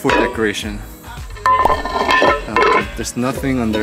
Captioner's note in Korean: 장독대 소리